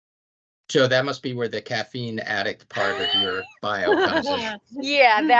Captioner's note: laughing